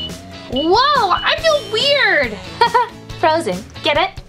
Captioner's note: timer beeps; giggles